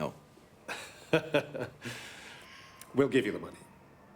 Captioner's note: laughs